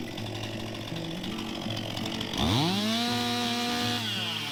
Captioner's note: motor rumbling